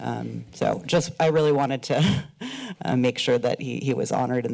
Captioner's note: chuckles